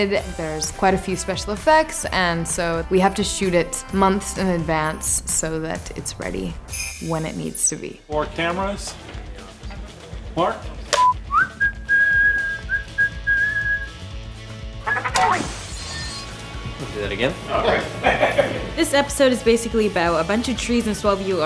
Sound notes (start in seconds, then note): 10.9 whistling; 15.1 shattering